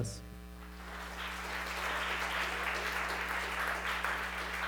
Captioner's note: audience applauding